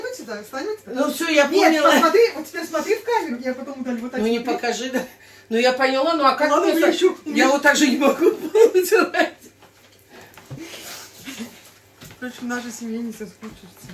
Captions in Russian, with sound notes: сюда. Встань вот сюда. Ну всё, я понял. Нет, посмотри. Вот теперь смотри в камеру. Я потом удалю. Вот так. Ну не покажи. Да. Ну я поняла. Ну а как? Я вот так же не могу поделать. [смех] Че в нашей семье не соскучишься.